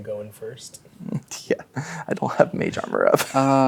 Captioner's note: chuckles